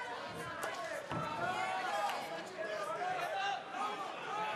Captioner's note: audience cheering